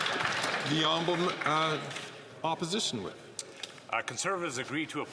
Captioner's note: applause